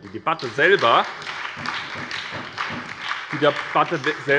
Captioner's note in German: Beifall bei der SPD